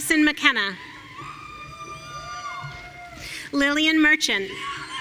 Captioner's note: audience cheering